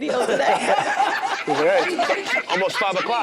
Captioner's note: group laughs